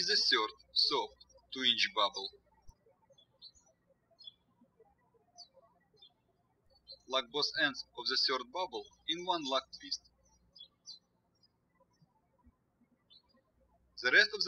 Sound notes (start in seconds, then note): 3.5 birds chirping; 11.2 birds chirping